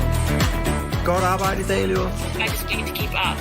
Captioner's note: non-english speech